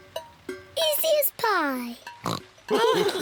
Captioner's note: oinks; all laughing